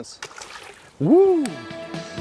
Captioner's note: splash